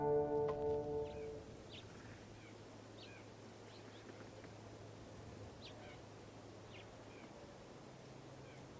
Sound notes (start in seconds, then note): 0.0 birds chirp; 0.0 wind blows